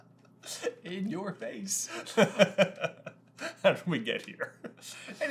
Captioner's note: laughing; laughing